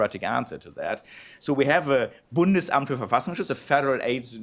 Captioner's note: non-english speech